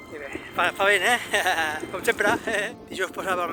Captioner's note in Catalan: Riu